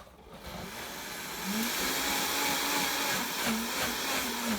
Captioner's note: blender whirs and grinds